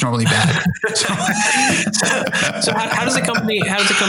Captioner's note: laughter